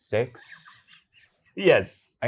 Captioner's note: guy laughing